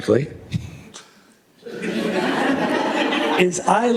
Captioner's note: laughter